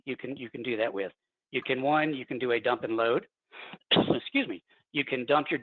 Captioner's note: coughs